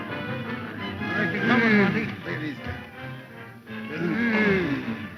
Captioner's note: men groan and mumble